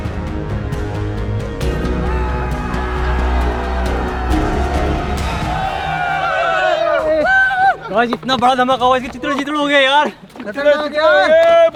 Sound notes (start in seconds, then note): 1.6 cheering out of excitement